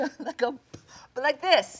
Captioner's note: Jung laughs